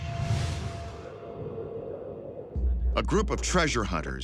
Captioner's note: wind whistling